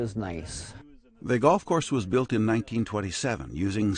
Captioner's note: voiceover